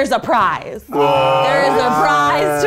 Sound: guys exclaiming

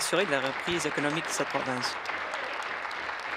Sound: applause

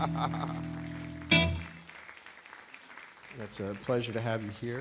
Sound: applause

